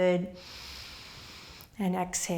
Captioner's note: inhaling